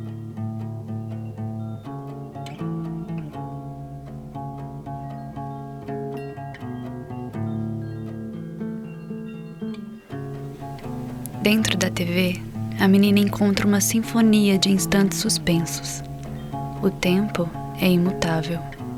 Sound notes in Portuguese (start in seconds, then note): 6.1 Tilintar suave; 11.4 em off